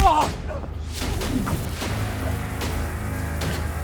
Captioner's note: grunting; smacking; zapping